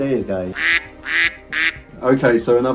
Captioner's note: ducks quacking